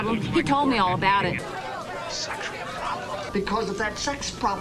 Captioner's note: whispering